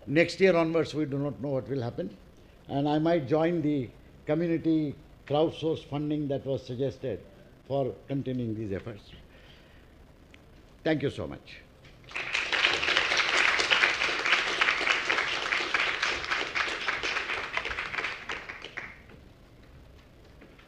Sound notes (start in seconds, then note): 12.0 applause